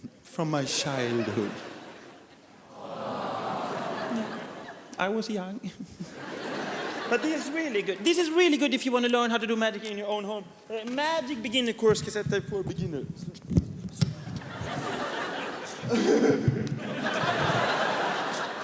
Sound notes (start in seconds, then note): 2.6 audience awws; 14.3 giggles